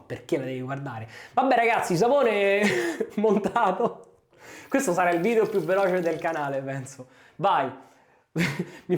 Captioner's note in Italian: risate